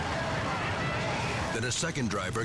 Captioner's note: people shouting